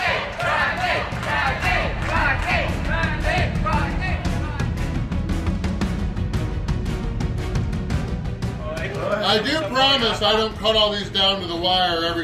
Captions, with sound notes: [crowd] Randy! Randy! Randy! I do promise I don't cut all these down to the wire every